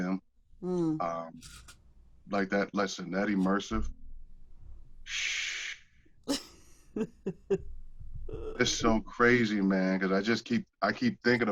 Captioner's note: laughter